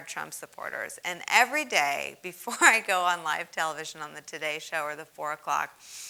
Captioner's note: laugh